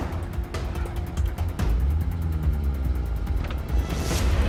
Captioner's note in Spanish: Disparos